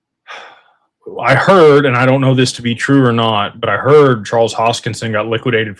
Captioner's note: sighs and gasps